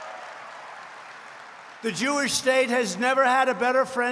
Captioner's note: applause